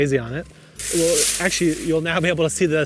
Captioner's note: foliage rustles